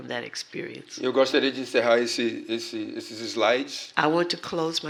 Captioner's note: speaking portuguese